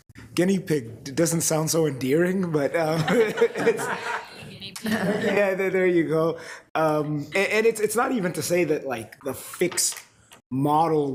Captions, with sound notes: guinea pig doesn't sound so endearing, but... (all laughing) (faintly speaking) - Yeah, there you go. And it's not even to say that like the fixed model